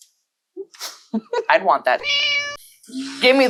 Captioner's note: meow